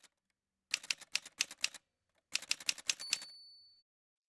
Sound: typewriter sounds

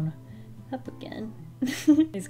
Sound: giggles

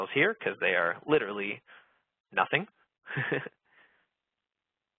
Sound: laughs

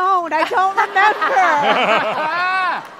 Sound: laughter

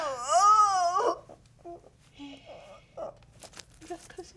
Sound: moaning

